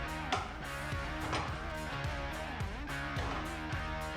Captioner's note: clapping